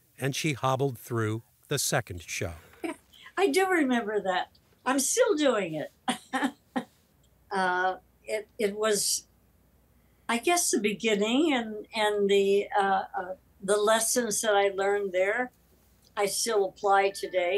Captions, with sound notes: and she hobbled through the second show. - I do remember that, I'm still doing it. (Kathleen laughs) It was, I guess, the beginning. And the lessons that I learned there, I still apply today.